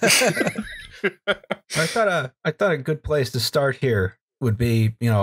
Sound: laughter

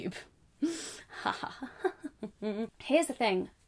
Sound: laughs

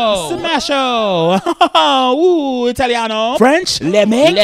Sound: laughs

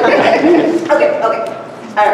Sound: laughter

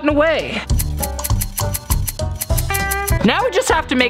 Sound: scissors snipping

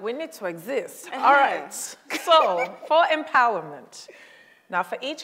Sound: laughs

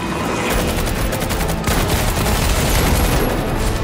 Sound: gunfire

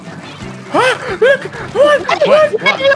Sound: higher pitch

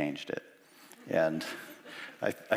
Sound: chuckles

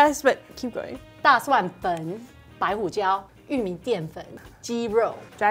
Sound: speaking in mandarin

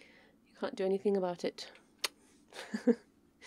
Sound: mwah

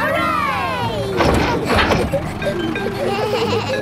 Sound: bleating; giggles

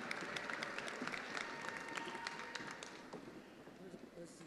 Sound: attendees applauding

